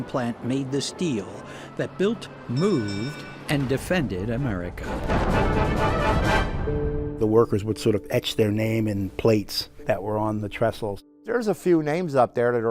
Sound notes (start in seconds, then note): 4.8 explosion